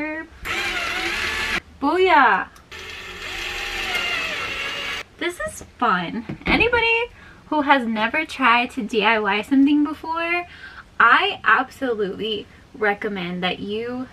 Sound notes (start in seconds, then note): 0.4 drill; 2.7 drill